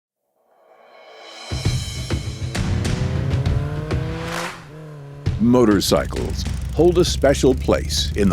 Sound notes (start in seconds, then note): 1.6 bike revving; 1.6 upbeat music